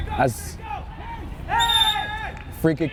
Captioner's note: whistle tweeting